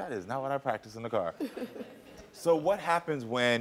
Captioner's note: audience laughing